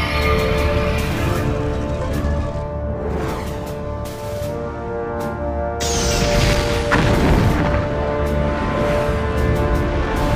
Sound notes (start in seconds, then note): 6.0 explosion